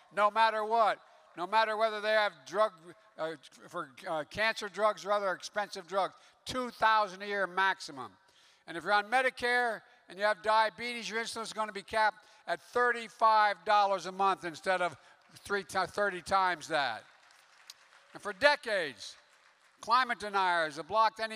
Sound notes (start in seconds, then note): 15.7 applause